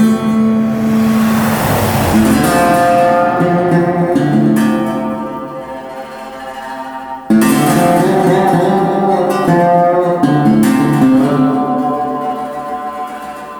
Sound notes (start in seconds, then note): 2.1 car engine humming